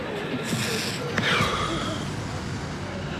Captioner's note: exhales sharply